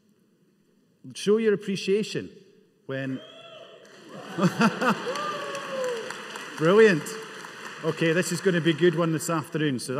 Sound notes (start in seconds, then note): 3.8 audeince cheering; 4.2 laughing